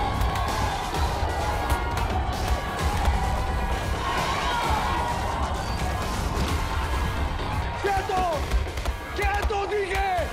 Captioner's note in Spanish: Golpes y algarabía